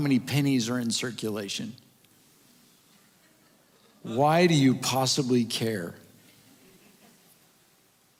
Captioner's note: audience Chuckles